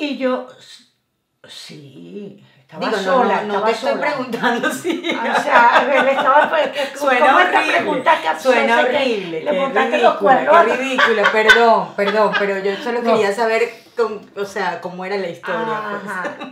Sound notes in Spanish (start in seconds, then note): 10.6 risas